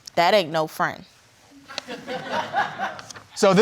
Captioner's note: audience titters